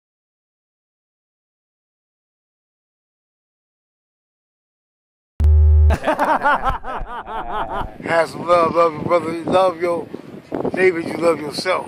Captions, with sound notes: (device drones softly) (men laughing loudly) - Have some love, love your brother. Love your neighbor as you love yourself.